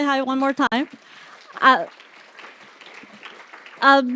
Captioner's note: applause